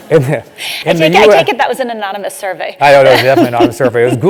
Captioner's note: laugh